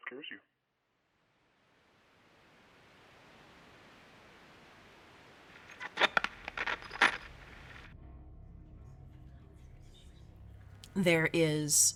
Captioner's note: static